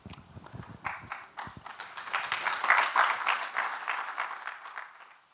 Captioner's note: audience clapping